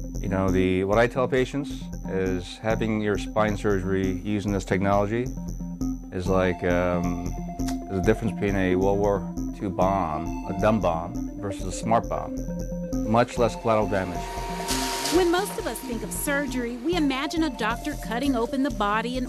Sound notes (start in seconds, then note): 14.2 whirring